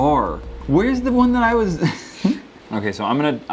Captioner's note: laughter